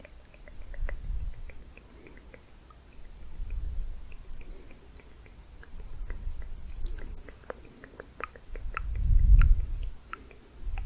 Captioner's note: quick tongue clicking, then layered clicking